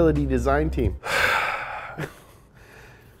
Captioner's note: sighs